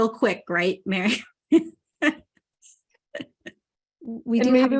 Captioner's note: laughing